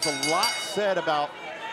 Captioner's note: bell ringing